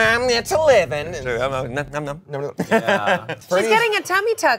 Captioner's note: laughs